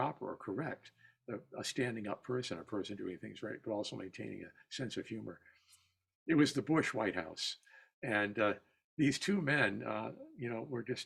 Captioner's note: fast words